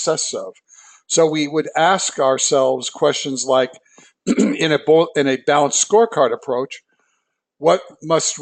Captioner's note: cough